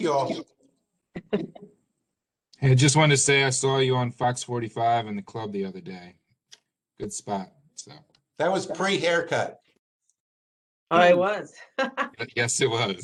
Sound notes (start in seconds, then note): 11.7 laughter